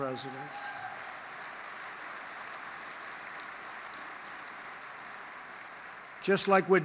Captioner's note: applause